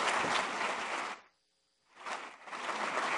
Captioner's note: applause